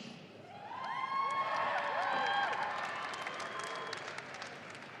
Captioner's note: audience applauding